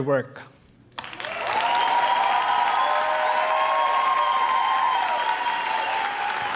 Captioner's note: audience applauding; audience cheering